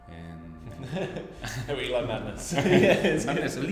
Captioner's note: laughs